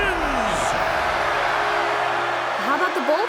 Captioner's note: cheering